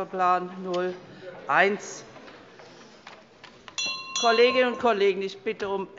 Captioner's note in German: Unruhe – Glockenzeichen der Präsidentin